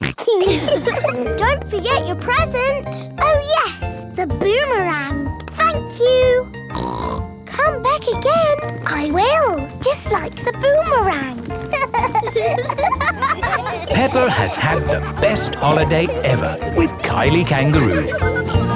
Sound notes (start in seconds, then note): 0.2 snorts; 0.3 laughs; 6.7 snorts; 12.2 laughing